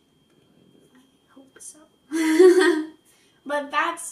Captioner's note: laughs